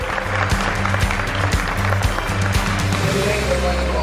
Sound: audience applause

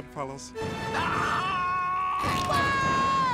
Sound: screams

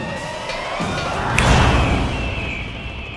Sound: snaps

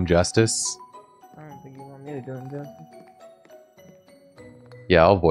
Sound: quietly

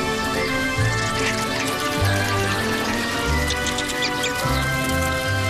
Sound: squirrel noises

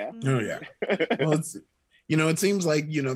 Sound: Chukwudi giggles

